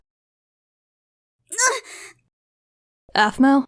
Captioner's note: Aphmau in pain